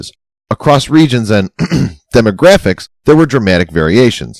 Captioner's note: ahem